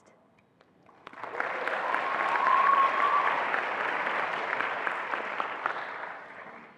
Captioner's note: attendees applauding and cheering